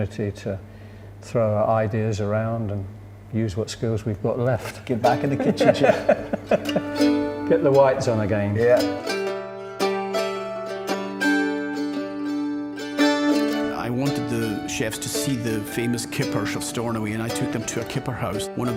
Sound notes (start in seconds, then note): 5.1 both laughing; 9.1 relaxed guitar music